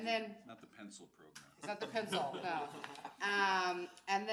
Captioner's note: laughs